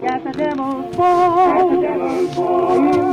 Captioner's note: shuffling noises and creaking